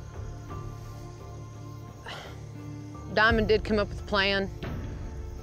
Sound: sighs

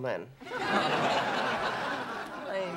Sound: laughter

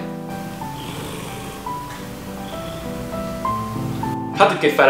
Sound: purr

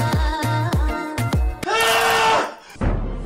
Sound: screms of agony and pain

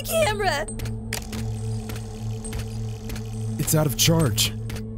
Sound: camera reeling

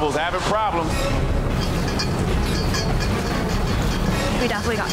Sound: urgent music; metal clanging

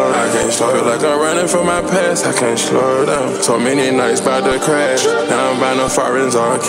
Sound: skrrt

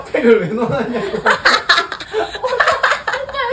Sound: laughing

